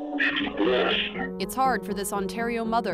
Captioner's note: audio distorted